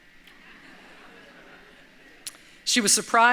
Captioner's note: light laughter